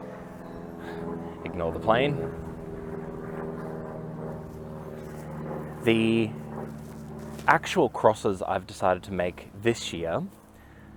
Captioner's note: aeroplane intensifies